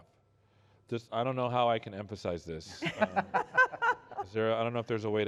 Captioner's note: laughter